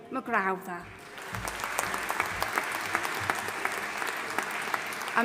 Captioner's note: audience applauding